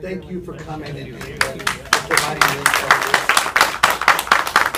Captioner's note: audience applauds